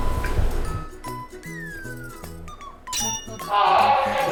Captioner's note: they begin holding their laughter